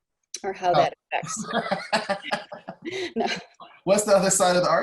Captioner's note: laughing